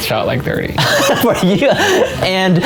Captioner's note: laughing